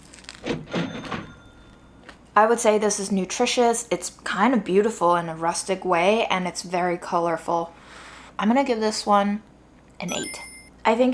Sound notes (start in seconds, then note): 0.7 cash register dings